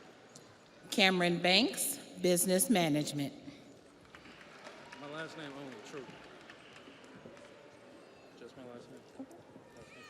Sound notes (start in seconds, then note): 0.2 audience applauds